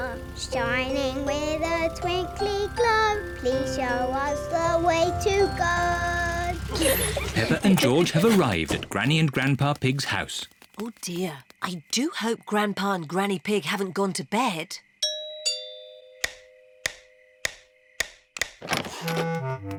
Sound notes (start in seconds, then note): 15.0 doorbell chimes